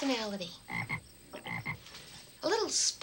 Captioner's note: frog croaks